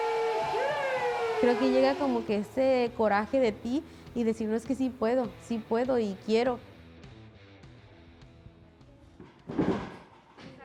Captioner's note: cheering; speaking Spanish